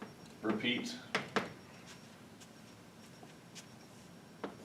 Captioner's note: chalk tapping